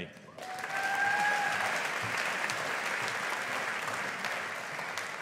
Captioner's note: audience applauding